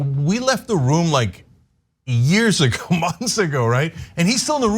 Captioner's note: laugh